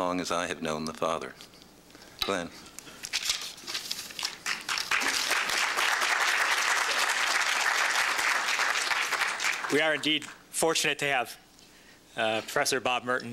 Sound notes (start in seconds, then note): 4.4 applause